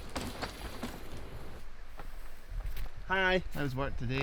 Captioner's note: bike thudding